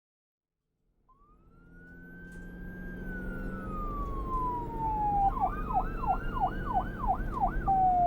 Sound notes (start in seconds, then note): 1.1 sirens blaring; 1.2 engines rumbling